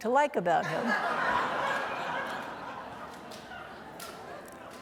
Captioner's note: audience laughing